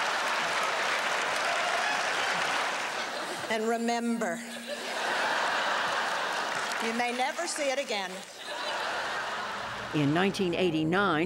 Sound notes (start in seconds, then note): 4.4 laughter; 5.6 applause; 11.0 laughter